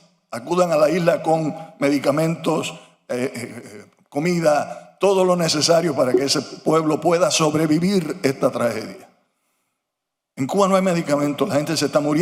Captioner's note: speaking foreign language